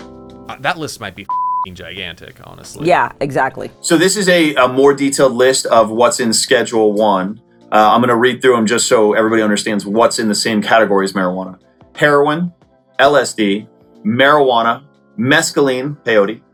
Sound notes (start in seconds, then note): 1.2 beep